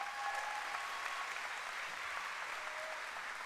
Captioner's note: cheering and applause